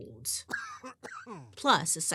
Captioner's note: man coughing